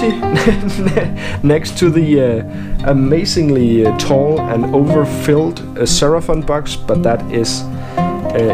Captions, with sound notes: *laughs* next to the amazingly tall, and overfilled a 'Seraphon' box, but that is...